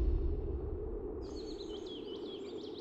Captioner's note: birds chirping